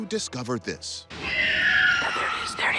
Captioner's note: screeching